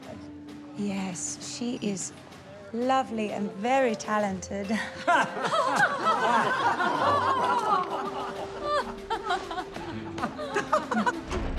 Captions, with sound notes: Yes, she is lovely and very talented. [all laughing] [laughing]